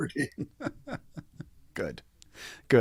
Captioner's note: both laughing